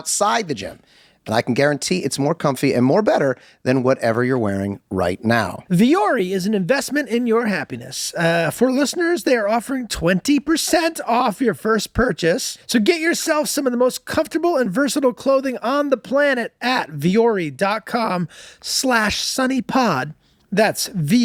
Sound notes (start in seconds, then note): none